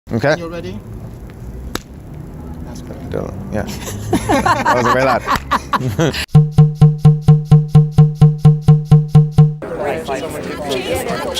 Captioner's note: people laughing